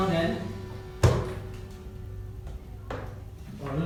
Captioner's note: hand hitting on the chair